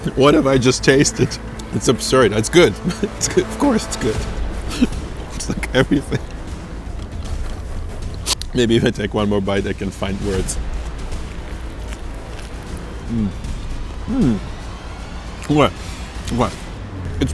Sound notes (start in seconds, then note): 4.6 chuckles; 11.5 crunches